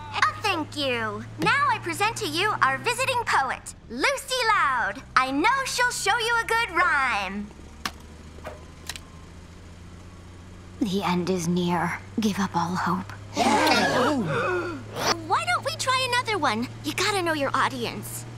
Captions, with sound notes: Thank you, now I present to you our visiting poet, Lucy Loud! I know she'll show you a good rhyme. The end is near. Give up all hope. [collective gasp] Why don't we try another one? You got to know your audience.